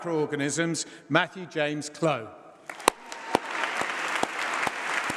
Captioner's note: applause